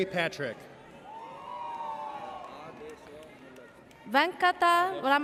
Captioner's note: audience cheers